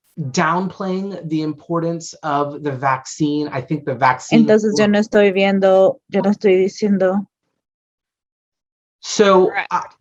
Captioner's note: offscreen spanish interpreter speaks briefly